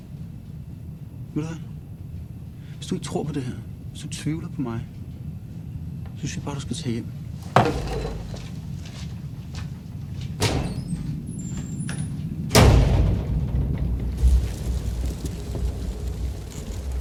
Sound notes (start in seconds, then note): 10.3 door opening; 12.5 door closing; 14.8 heavy wind sound